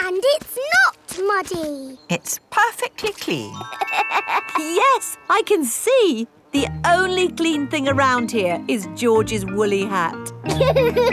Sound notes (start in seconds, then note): 3.7 laughs; 10.5 all laughing